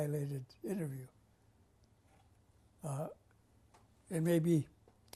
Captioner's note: pauses for 3 seconds